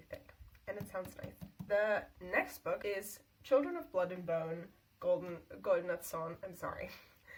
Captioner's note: English accent; German accent